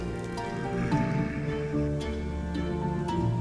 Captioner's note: drifters growling